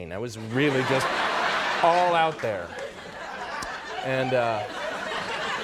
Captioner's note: audience laughing